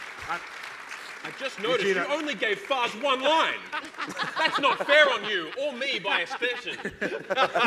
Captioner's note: cheers and applause